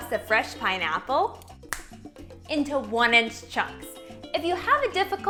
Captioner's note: fingers snap